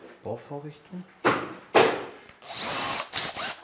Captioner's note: hammering, whirring